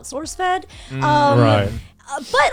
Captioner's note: guys humming in agreement